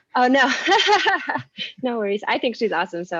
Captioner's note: laughs